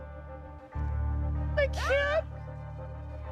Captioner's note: tearfully